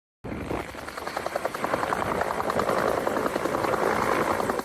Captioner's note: helicopter whirring